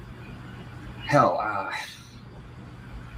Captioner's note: sighs